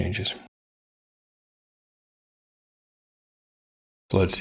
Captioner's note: blank Audio